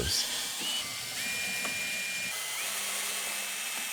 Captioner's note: drill buzzing